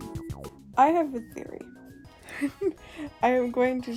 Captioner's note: laughs